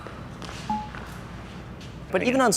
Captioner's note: graphic dings